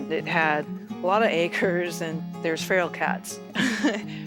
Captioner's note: laughs